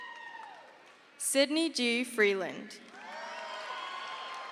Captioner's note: crowd cheers